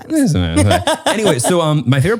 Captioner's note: laughs